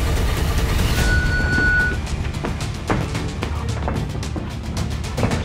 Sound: dramatic music; round timer sounds

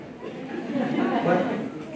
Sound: laughter

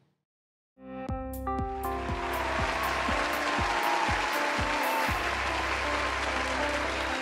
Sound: upbeat music; audience applauding

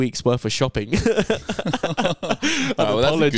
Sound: laughing

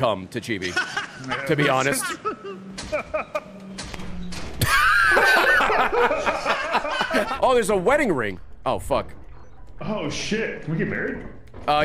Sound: laughs

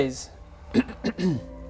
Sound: ahem

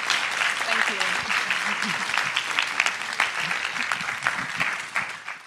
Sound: applause

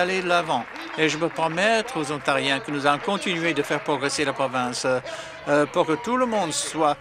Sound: some Applause

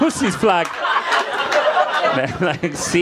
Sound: audience laughing

